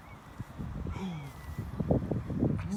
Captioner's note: pretend "shock" intake of breath